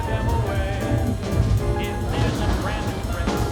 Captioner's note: thunder